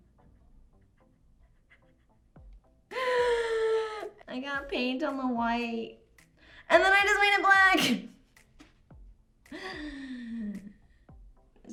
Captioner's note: inhale